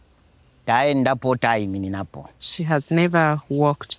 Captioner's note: father speaking in foreign language